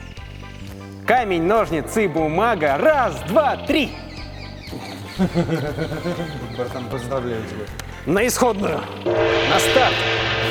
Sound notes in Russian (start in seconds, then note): 4.7 смех